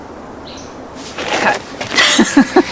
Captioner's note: laughing